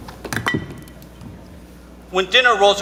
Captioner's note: boots squeaking; footsteps thudding; object clinking